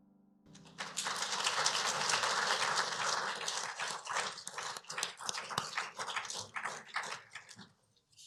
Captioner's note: applause